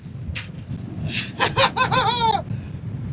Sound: laughs

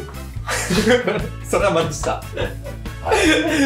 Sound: laughs

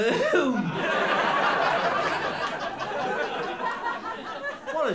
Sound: laughter

